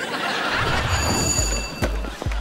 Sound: bell ringing

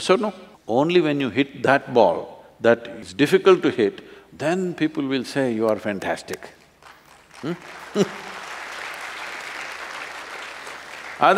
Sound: applause

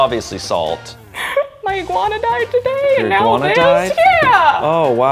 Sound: cries

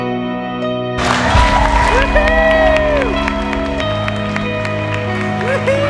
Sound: applause and cheering

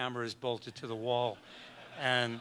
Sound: audience laughs

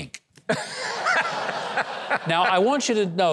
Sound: laughs; audience laughing

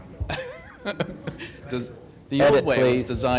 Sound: laughs

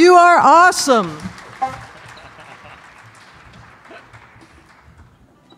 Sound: audience clapping

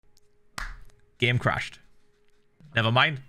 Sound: clap; in English

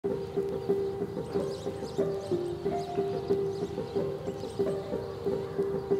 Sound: birds twittering; bright upbeat music

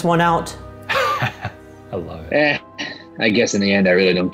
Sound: laughing

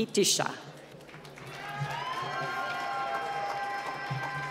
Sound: applause

